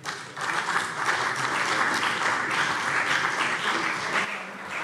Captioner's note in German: Beifall CDU und vereinzelt BÜNDNIS 90/DIE GRÜNEN